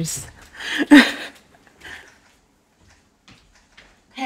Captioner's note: laughs